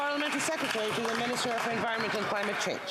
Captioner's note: applause